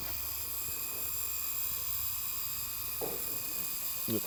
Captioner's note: machine buzzes